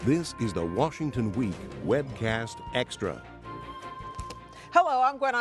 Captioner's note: dramatic music; voiceover